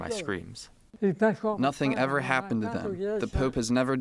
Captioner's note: through translator